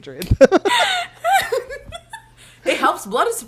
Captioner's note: both laugh